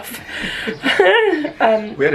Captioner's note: giggles